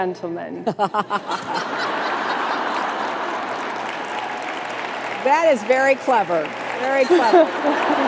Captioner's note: laughter